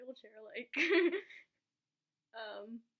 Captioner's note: laughs